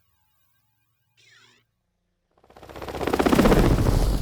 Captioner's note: helicopter blades whirring